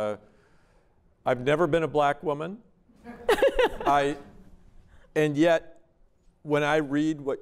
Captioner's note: laughter